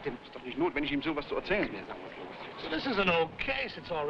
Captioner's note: officers speaking foreign language